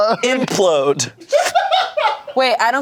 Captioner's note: everyone laughs